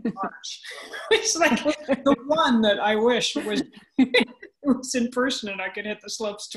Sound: laughs

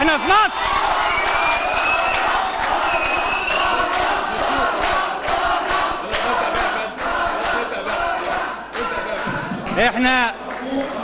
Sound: Cheers as Aljazeera crew leaves

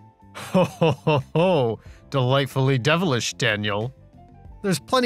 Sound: chuckles

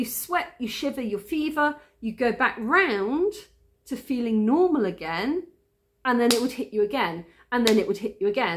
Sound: clap

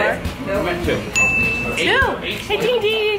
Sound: ringing sound

